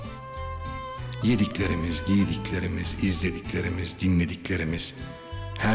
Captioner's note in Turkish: Ahmet dış ses